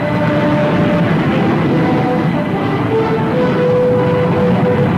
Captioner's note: plane engines revving